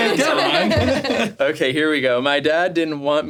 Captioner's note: all laughing